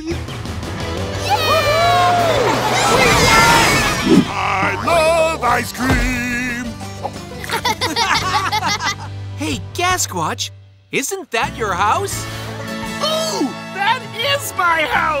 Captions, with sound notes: [cheering] I love ice cream! [laughing] Hey Gasquatch, Isn't that your house? Oh, that is my house!